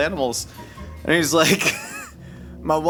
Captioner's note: laughing